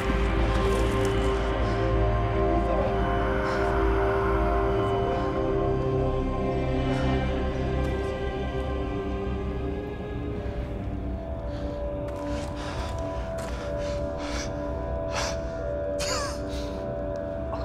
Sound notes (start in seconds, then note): 10.4 breathing heavily; 15.9 coughing